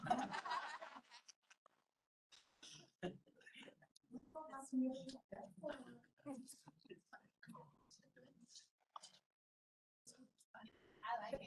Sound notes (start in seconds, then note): 0.6 chatter